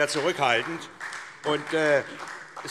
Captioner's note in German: Beifall SPD